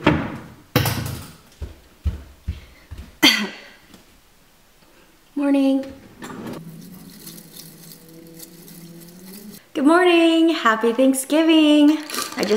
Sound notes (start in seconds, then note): 0.2 thumping; 3.2 coughs